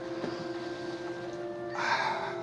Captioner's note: sighs